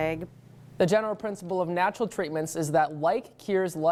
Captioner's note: voiceover